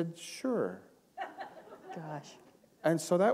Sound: laughter

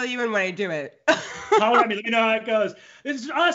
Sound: laughs

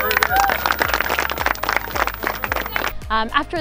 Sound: applause

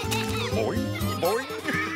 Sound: chuckling

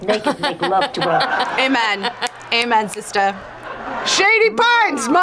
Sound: laughs

